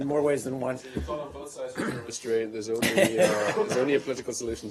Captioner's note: laughter